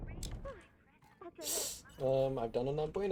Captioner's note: rattlesnake hiss